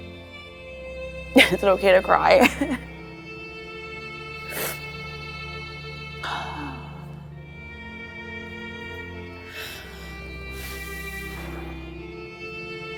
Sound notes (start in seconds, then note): 1.3 chuckles; 1.3 dramatic music playing; 4.4 sniffling; 6.2 exhales deeply; 7.9 dramatic music playing; 9.4 breathes heavily; 12.1 dramatic music playing